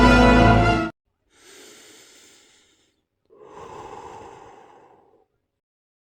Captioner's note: deep breath